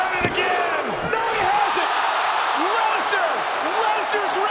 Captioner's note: crowd cheering